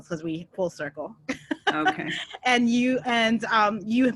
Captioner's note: laughs